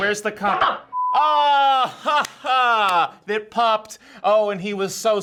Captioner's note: laughs